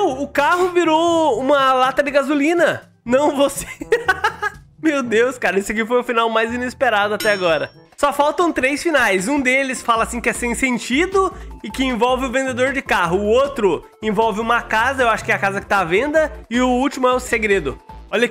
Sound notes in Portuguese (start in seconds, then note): 3.6 risos